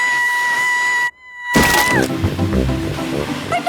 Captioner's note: screaming